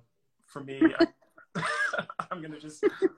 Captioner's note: laughing